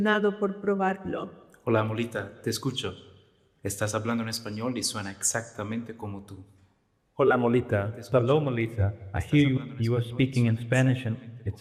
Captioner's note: speaking another language